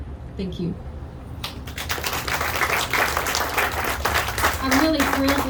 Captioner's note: audience clapping